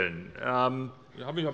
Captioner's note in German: Zuruf